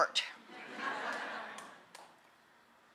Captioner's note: laughter